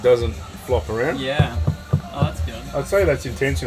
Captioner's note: cupboard thumping